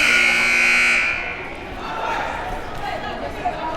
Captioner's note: buzzer rings